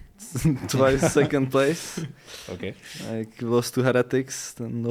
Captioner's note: laughs